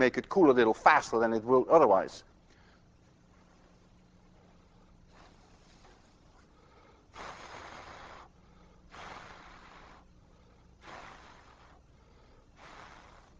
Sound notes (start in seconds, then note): 5.0 blowing